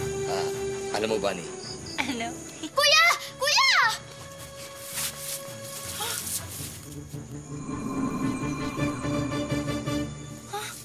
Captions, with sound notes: -You know what, Bunny... -What? Isagani! Isagani! [magic glimmers]